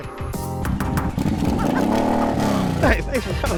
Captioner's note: upbeat music; engine revving; laughs